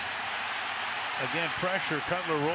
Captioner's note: cheering